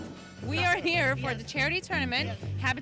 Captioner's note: voiceover